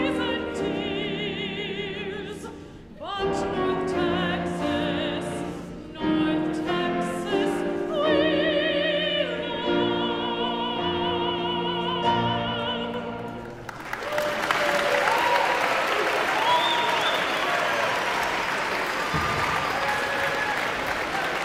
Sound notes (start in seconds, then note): 14.8 audience applauds; 16.3 audience member whistles